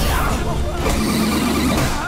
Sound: roaring; grunting

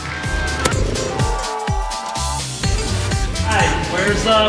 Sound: football taps

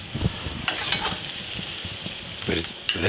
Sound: tongs scrapes

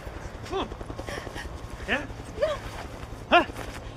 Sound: crying and grunting

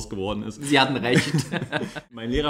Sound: laughs

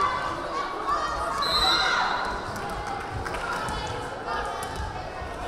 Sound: whistle blaring

